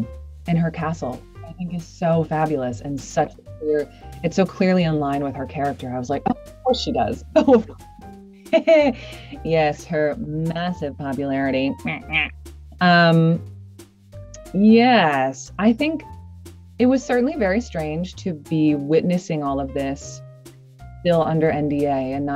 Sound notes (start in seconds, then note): 7.4 chuckles